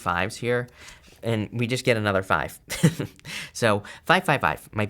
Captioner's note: chuckles